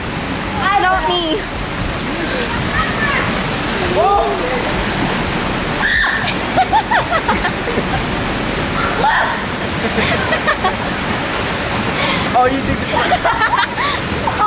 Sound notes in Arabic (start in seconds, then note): 5.8 صراخ فتاة; 9.6 الكل يضحك